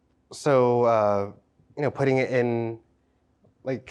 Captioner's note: none